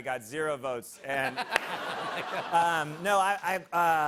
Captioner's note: laughter